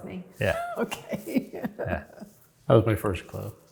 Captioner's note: chuckles